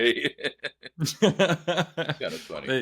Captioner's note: laughs